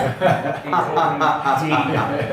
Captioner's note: laughs